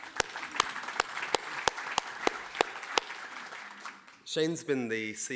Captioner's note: audience applauding